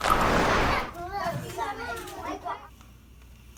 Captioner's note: murmurs